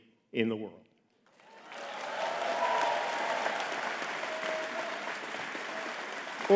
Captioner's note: audience cheering and clapping